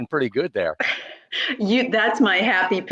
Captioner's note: giggling